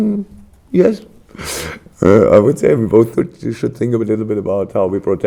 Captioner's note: laughs